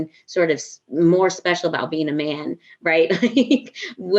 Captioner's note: laughs